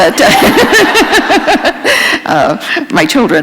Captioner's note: laughter